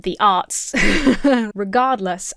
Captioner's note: laughs hesitantly